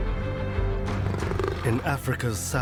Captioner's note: cheetah growling